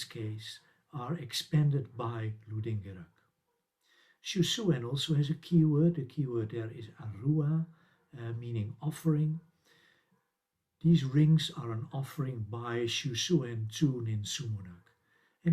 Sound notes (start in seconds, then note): 7.9 sumerian